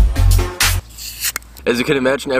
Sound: opening water bottle

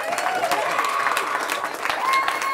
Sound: cheering

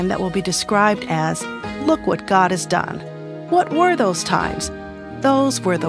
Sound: none

